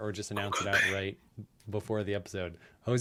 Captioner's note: whispering